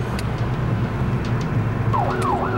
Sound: siren wails

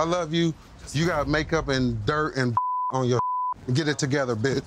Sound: beep

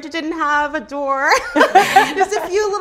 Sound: laughs

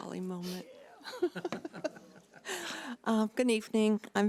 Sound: laughing

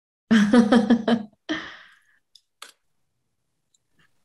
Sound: laughing

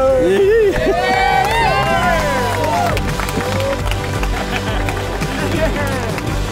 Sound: applause

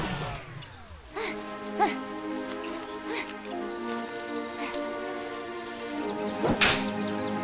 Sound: panting

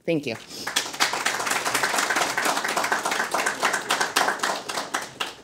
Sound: audience applauding

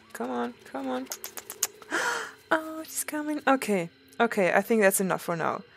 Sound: gasps

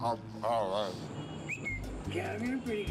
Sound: whistles; speaking Spanish

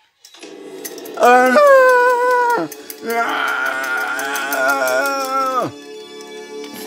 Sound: screaming

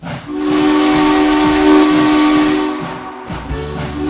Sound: crossing signal whistle

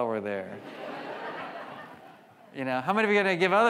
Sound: audience laughs

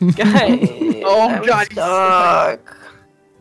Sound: chuckles; groaning

